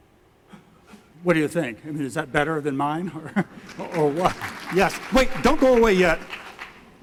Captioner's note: clapping